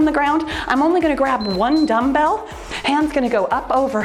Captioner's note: timer beeps